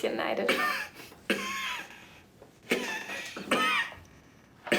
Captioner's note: Jan coughs